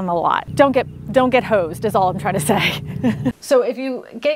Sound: chuckles

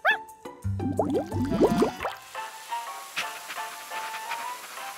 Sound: Sparky barks; bubbles popping

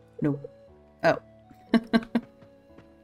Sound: laughs

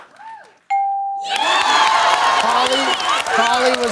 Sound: cheering/applause

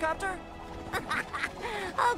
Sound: tails chuckles

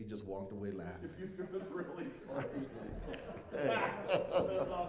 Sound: laughter

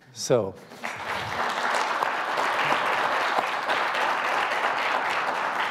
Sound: audience applauding

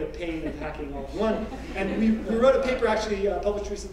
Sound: laugh

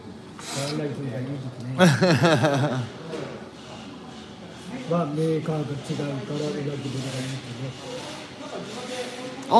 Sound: laughs

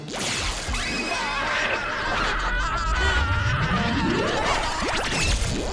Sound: screaming

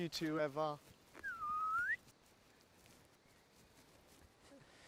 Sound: whistles

